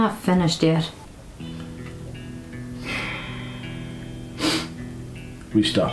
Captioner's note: deep breath